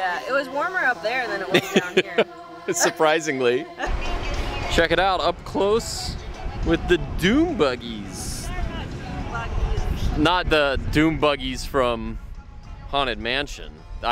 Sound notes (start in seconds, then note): 1.4 laughs